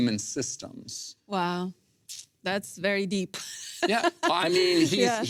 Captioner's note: laughs